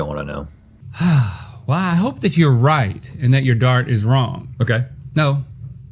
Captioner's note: sigh